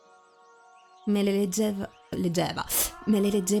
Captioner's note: messing and mocking her wrong accent